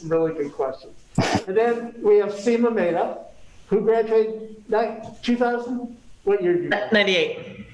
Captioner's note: chuckles